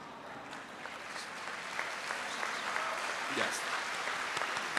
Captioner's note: audience applauds; applauds